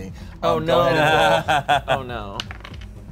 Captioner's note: laughs